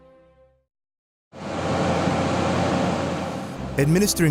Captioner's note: road paving sounds